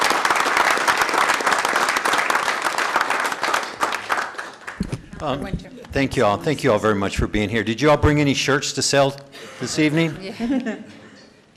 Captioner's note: applause